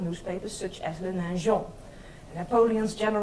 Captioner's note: speaks in foreign language